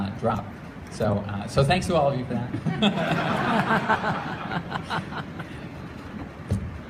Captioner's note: laughter